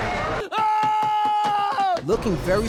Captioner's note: screaming